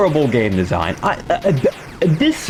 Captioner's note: stutter Moment